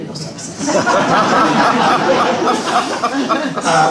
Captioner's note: laughter